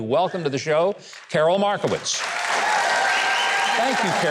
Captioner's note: audience applauds